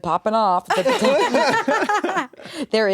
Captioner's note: everyone laughs